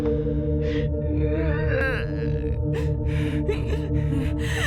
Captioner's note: weeping